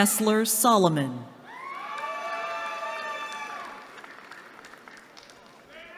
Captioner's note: cheering